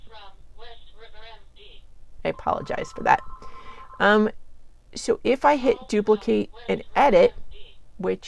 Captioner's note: caller ID & phonerRinging